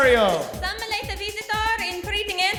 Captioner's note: Spanish accent